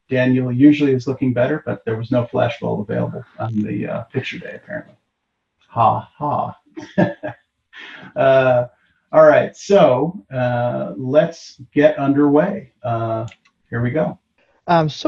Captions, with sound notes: Daniel usually is looking better, but there was no flash bulb available on the picture day, apparently. Ha, ha! [LAUGHS] So let's get underway. Here we go!